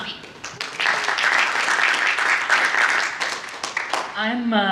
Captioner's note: audience applause